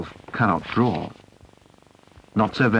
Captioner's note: sheet of paper rustles